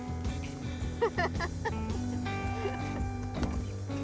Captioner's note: laughter